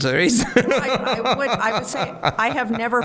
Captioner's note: laughing